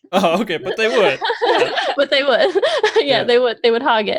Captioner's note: laughs